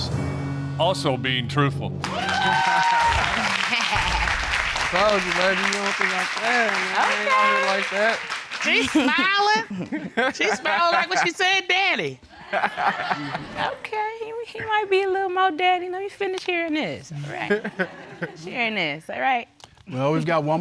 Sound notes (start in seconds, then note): 2.0 audience cheering